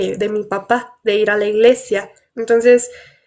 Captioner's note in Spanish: none